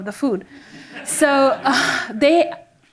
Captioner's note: audience members laughing